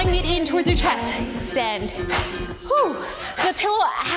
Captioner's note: breaths laboriously